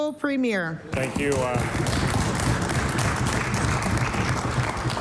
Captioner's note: some Applause